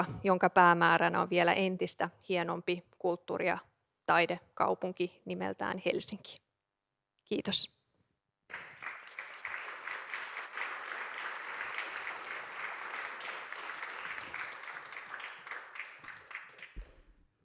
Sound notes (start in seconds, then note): 8.5 applause